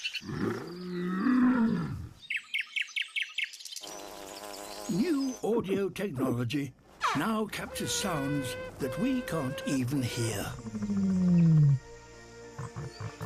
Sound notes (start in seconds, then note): 0.3 growls; 2.2 buzzes; 2.2 chirps; 10.6 deep, resonant rumbling